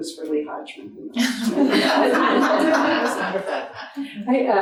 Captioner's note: audience laughing